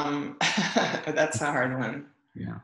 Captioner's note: laughs